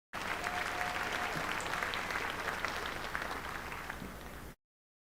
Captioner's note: names being called